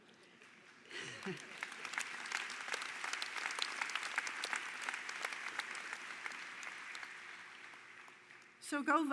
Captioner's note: applause